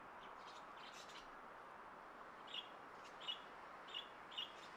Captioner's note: birds chirping